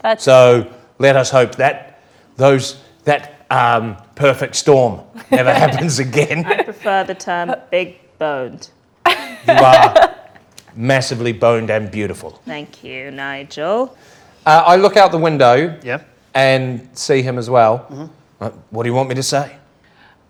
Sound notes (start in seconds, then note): 5.2 laughs